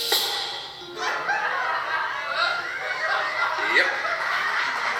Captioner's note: audience laughing